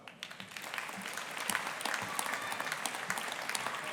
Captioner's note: audience applauding